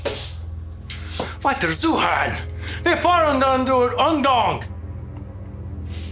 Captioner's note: Siegmund speaking German